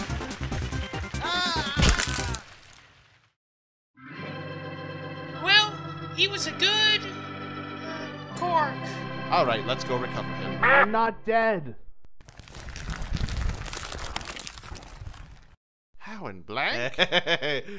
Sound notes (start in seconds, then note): 1.2 Cork screams; 1.5 crunch; 16.8 Cork laughs